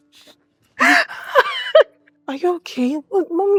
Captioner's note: continues crying